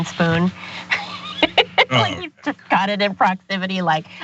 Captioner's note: laugh